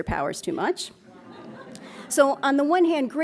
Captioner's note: laughs